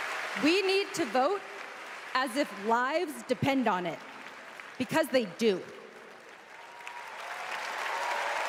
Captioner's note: applause